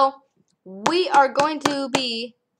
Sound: thumping in sync

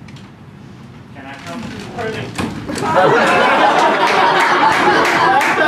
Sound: laughter

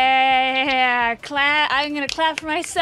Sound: none

